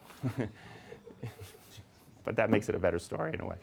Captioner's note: audience laughing